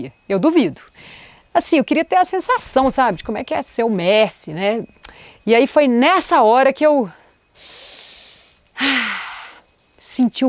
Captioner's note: breath